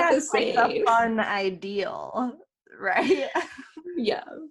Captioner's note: laughter; laughter